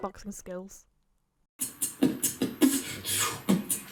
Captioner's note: beatboxes